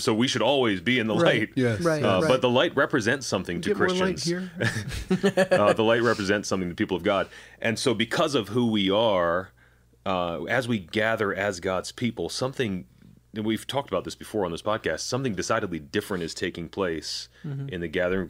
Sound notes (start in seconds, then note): 4.6 chuckle